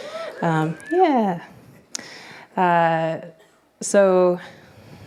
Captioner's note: scattered cheering